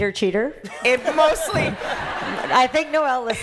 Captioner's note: laughter